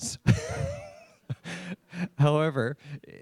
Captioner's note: laughs